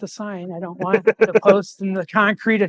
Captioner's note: laughing